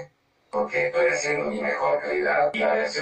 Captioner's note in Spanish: Voz Robotico